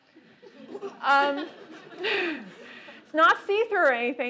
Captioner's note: laughter